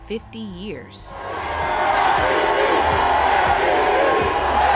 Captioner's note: fans cheering